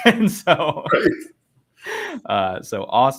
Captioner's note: laughs